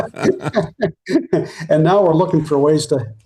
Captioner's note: both Laughing